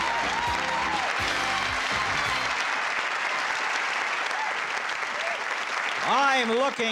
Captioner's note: applause